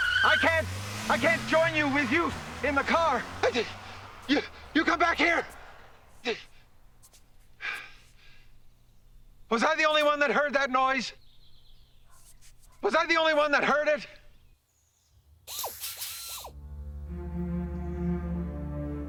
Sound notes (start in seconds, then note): 15.4 whirring